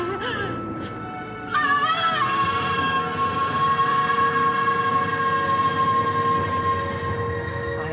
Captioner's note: menangis; berteriak